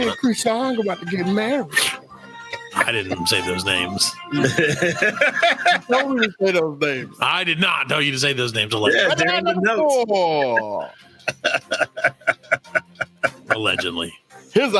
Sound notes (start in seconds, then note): 4.2 laughs; 10.8 laughs